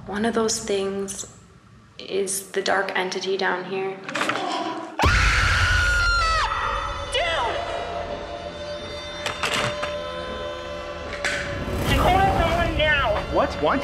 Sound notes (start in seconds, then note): 5.0 screams